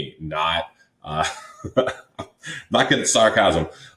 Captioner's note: laughs